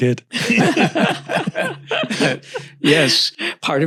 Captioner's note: panels laughing